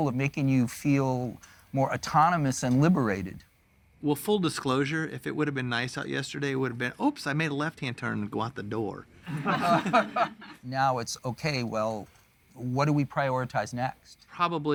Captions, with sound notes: of making you feel more autonomous and liberated? Well, full disclosure, if it would've been nice out yesterday, it would've been "Oops, I made a left-hand turn to go out the door." (laughter) Now it's okay. Well, what do we prioritize next?